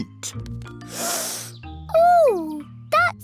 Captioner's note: sniffs